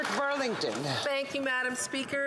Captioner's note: some Applause